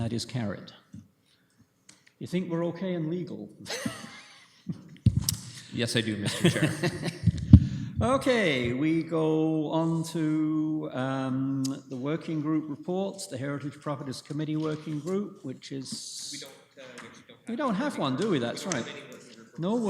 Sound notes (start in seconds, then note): 3.7 laughing; 6.2 laughter; 16.6 comments off mic